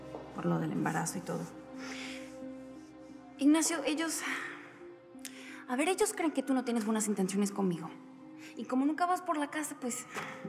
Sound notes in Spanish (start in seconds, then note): none